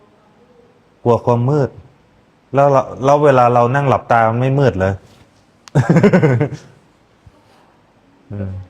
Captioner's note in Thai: เสียงหัวเราะ